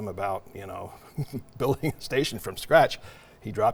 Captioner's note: laughs